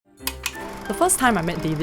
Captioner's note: click